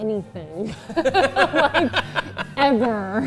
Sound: laughs

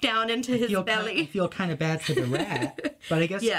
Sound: laughs

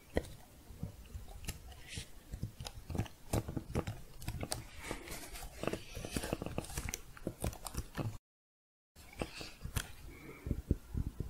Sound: typing, then dull tapping

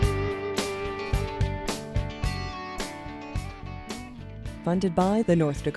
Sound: voiceover

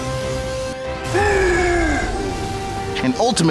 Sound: growl

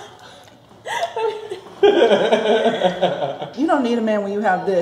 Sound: laughing

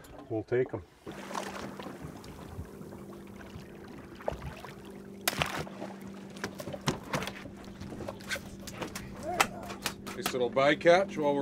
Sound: fish splashing

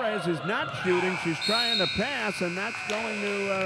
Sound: buzzer dings

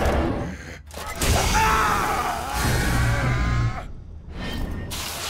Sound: screaming

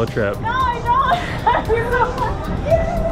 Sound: laughs

